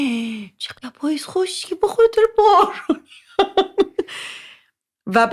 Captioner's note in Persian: خنده